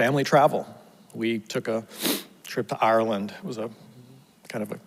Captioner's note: sniffles